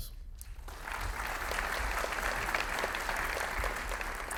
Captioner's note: audience applauding